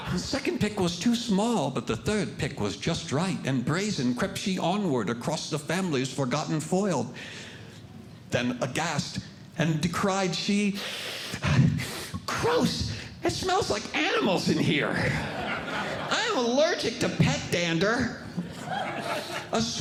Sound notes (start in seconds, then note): 10.8 deeply Inhales; 14.8 audience Laughing